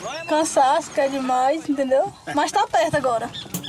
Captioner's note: Portuguese spoken audio